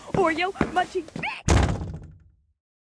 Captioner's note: Miss Bloomie slams the door shut